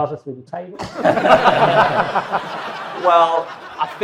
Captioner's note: audience and panel laughs